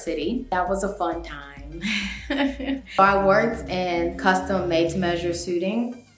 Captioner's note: cute laugh